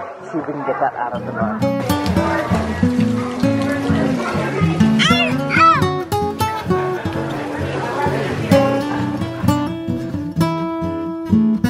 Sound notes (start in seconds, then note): 1.8 rain falling; 3.2 guitar music